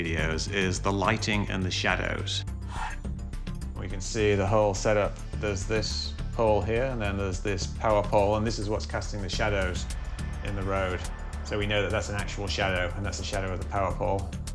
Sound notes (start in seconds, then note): none